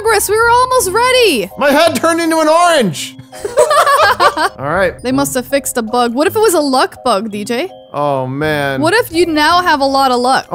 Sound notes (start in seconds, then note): 3.3 both laughing